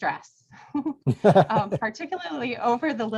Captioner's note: both chuckle